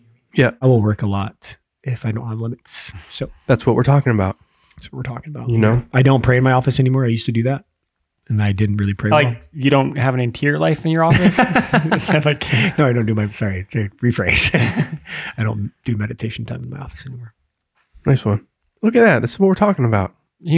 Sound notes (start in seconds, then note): 11.0 laughing; 14.3 laughs